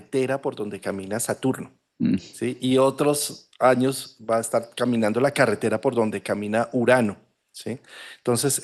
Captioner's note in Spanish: carraspeo